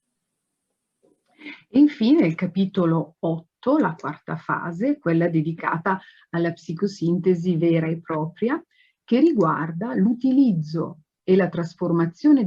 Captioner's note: speaks Italian